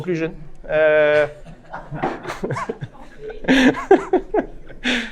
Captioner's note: laughter